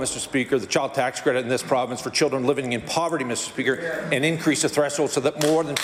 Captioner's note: applause